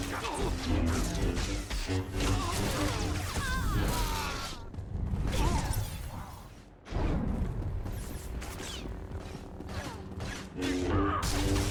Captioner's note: gunshots